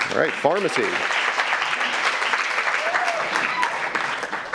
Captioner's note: audience applauds